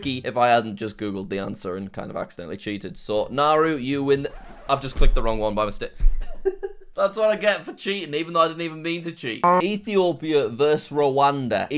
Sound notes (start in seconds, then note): 6.2 laughs